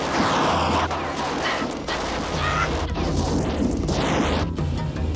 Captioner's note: car engines revving